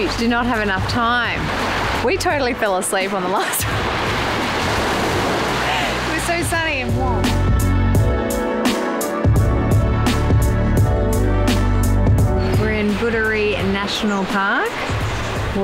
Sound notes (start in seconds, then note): 5.5 laughs; 7.4 mellow music